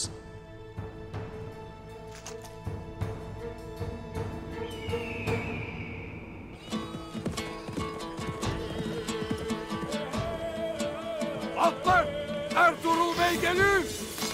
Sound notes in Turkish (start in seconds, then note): 4.8 Kartal ötme sesi; 6.6 Müzik - Hareketli